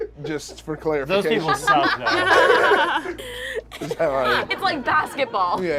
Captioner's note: group laughs